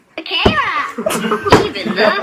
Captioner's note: laughter